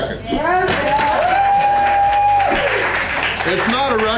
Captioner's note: crowd applause